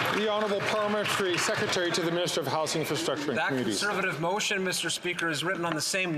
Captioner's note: some Applause